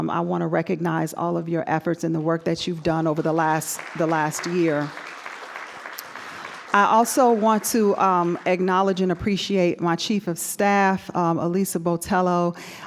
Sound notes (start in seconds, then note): 5.0 audience applauding